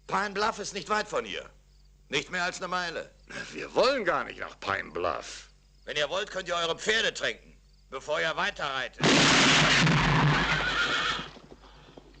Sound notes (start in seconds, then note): 9.0 gun fires